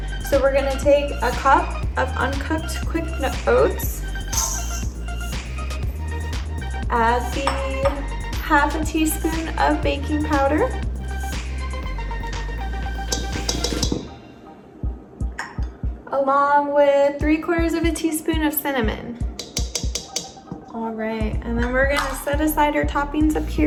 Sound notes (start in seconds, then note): 13.6 pan clanging